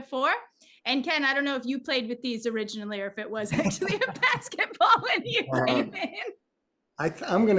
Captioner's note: laughs